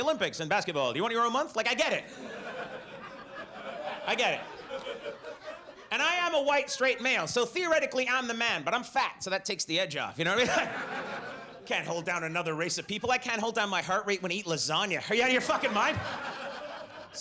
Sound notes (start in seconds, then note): 1.8 audience laughs; 10.3 audience laughs